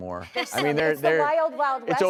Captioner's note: laughs